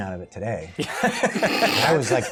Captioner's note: laughter